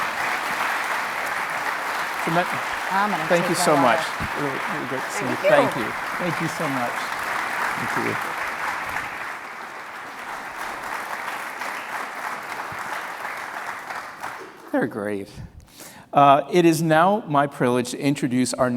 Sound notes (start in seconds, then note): 0.1 audience applauding; 9.1 audience applauding